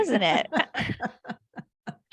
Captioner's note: laughs